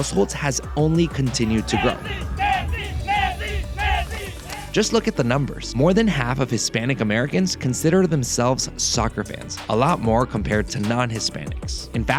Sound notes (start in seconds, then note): 1.5 Chanting "Messi"